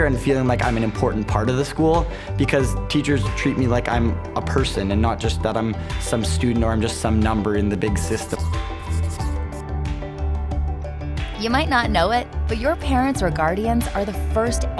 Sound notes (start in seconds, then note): 8.5 cheerful music; 8.7 pencil scratching